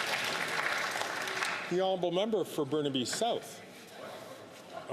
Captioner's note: some Applause